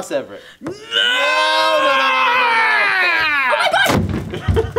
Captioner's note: yelling